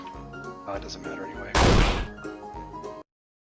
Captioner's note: bang